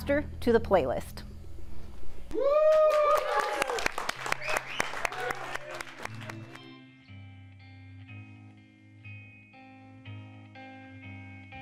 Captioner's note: cheering and clapping